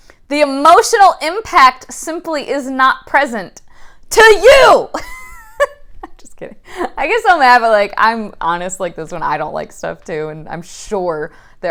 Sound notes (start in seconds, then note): 4.6 laughing